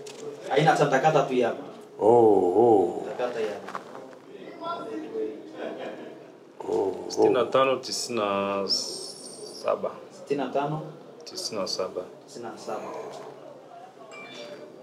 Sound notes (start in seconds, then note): 0.0 speak Swahili; 4.0 speak Swahili